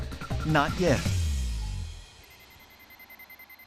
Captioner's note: beeping